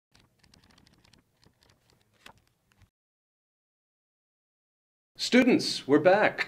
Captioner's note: book pages flipping